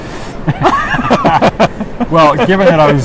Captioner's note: laughs